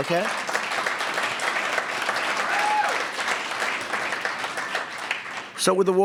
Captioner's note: applause